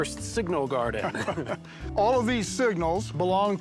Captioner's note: laughter